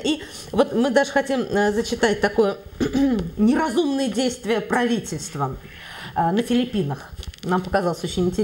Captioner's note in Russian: прочищает горло